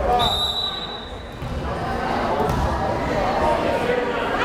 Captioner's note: whistle blares